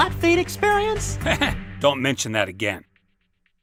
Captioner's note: mephone chuckles